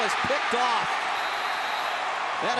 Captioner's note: cheering; whistle blows